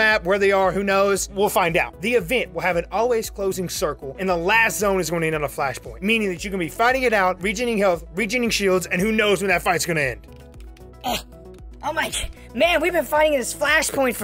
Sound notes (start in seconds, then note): 11.1 voice tone change